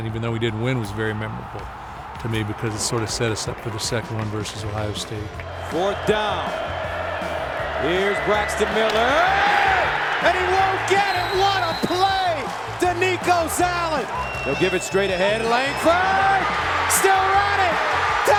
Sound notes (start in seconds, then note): 9.4 crowd screaming; 10.6 whistle blowing; 16.5 crowd cheering